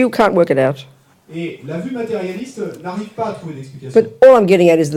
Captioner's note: French